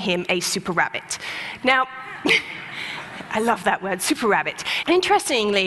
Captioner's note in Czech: Smích